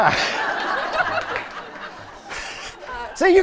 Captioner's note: laughter